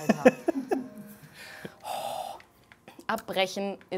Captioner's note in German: Er lacht